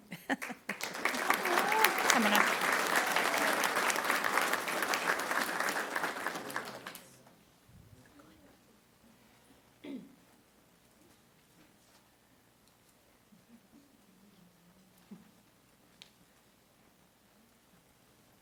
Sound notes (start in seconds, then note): 12.6 applause